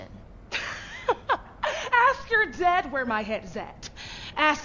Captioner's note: laughs